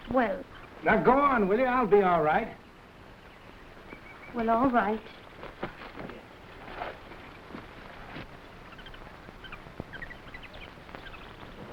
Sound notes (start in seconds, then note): 5.9 animals chattering; 5.9 footsteps rustling